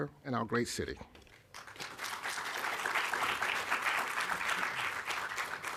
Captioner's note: applause